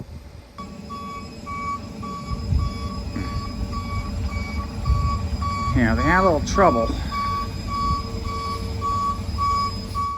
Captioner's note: moving truck backs up